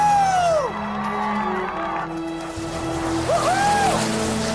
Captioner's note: crowd cheering and clapping